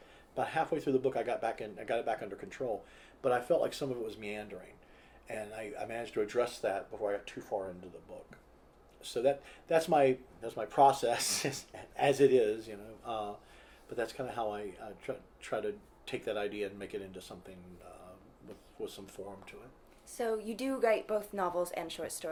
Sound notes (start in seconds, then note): 11.2 laughs